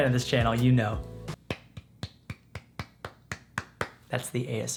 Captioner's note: clapping